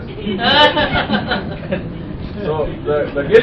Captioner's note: laughter